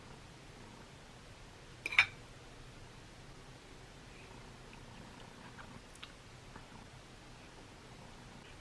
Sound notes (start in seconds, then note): 1.8 silverware clinking